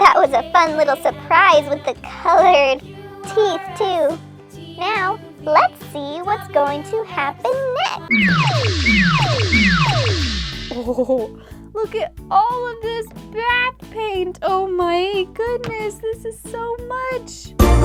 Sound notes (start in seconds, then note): 8.1 blasting